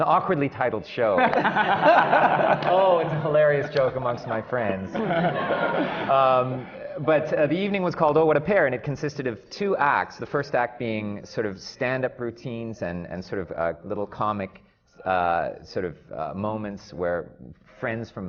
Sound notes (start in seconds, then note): 1.2 laughter from the panel; 4.6 laughter